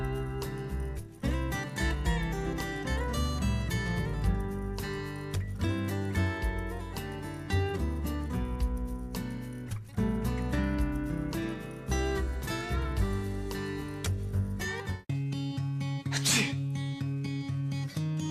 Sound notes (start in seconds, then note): 16.1 man sneezes